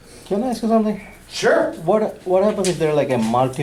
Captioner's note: voiceover